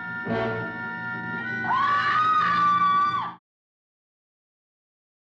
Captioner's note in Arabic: صراخ